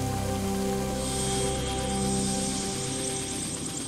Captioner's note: blades whirring